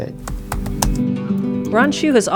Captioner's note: computer typing